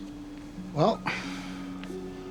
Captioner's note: sighs